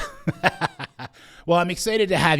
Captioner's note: laughing